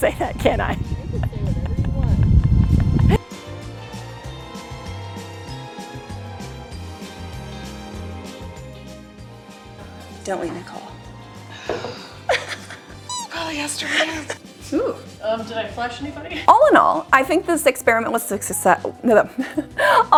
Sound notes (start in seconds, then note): 3.7 dramatic music; 12.2 laughs